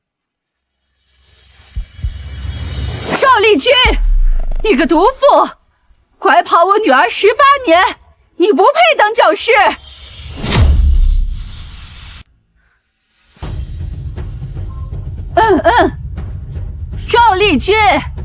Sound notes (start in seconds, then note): 15.3 coughing